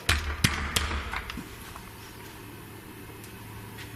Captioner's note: banging on door